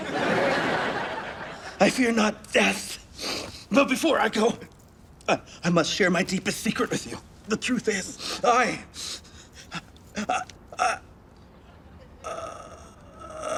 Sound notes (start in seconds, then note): 0.0 audience laughs; 8.9 gasps